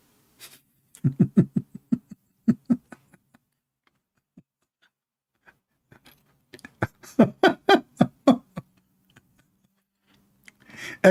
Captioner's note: Ketawa